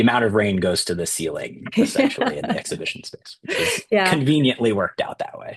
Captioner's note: laughter